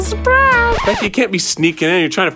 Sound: record scratching

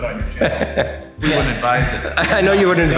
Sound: cameraman laughing

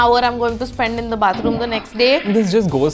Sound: toilet flushes

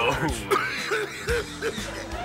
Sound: coughing

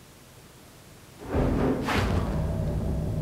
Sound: banging noise

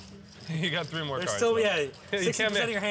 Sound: laughs

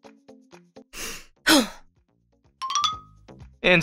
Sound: inhales and exhales

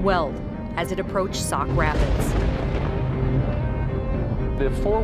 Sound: thunder rumbling

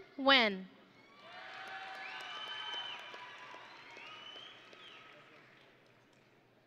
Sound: audience and graduates cheering

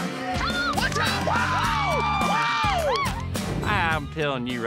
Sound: people cheering, clapping

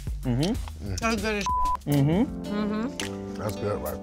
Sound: beep

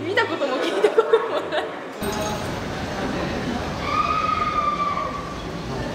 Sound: screams

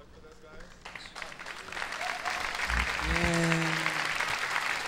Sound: audience applauding

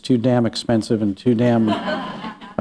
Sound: laughter

